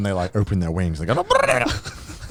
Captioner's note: yelling